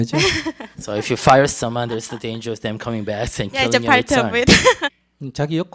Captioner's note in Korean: 질문자 웃음